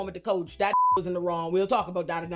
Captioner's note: beep